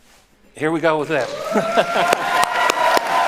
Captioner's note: applauding; chuckles